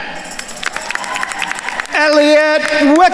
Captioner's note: attendees cheering and applauding